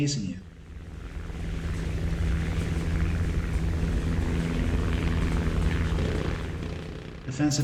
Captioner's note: aircraft Engines ,Gunfire, Flying Sounds